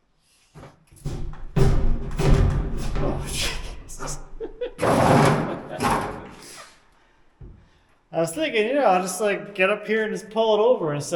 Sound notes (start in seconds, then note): 3.3 laughing; 4.9 cyclone clanking